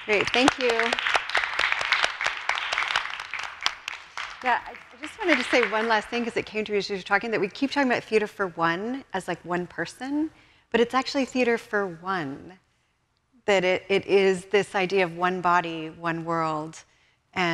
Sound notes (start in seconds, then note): 0.0 audience applause